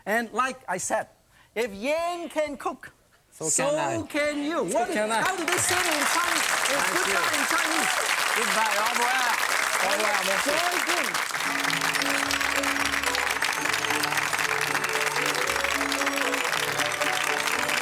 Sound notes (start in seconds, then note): 11.2 applause; 13.4 joyful music